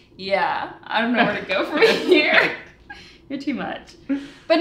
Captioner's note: laughs